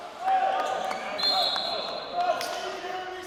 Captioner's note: whistling blowing